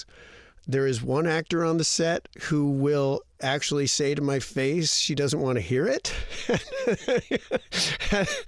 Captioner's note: laughter